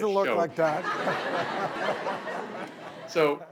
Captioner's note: laughing